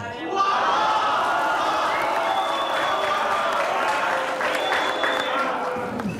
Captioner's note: applause